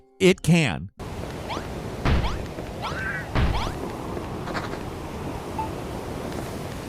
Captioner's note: pattering and slamming sound effect; beeping sound effect